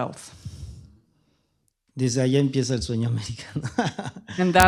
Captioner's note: speaking spanish